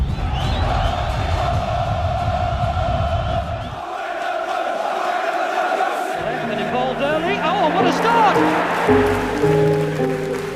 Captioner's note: fans chanting